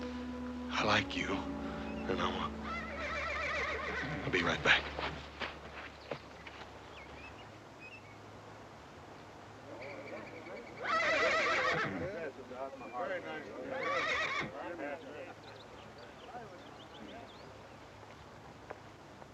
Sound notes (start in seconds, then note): 2.6 horse whinnying; 9.7 horse whinnying, chatter